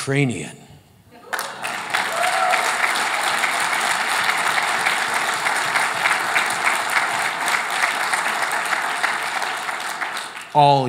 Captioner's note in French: Applaudissements